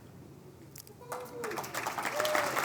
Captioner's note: applause